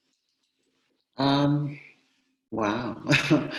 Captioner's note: laughs